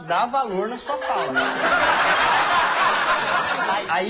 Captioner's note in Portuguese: risos